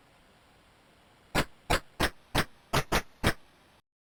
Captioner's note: 8-bit hand clapping